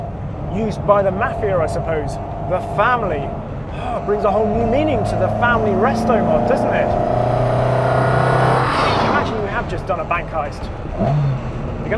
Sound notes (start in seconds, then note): 7.0 engine revving